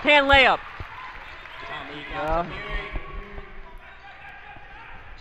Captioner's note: crowd cheers